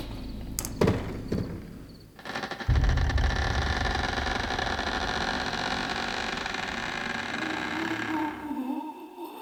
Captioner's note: cabinet creaking; pained moans